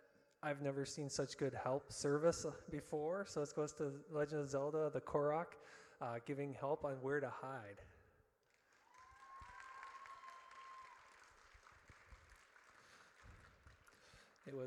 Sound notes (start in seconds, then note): 8.8 audience cheers